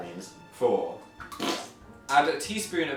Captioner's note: squelching noise